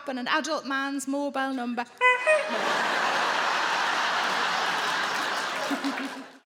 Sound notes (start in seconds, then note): 2.0 mimics horn honking; 2.0 crowd laughs